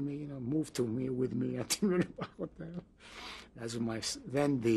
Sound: laughs

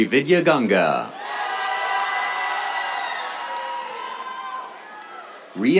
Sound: cheers, applause

